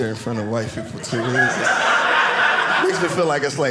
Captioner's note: audience laughing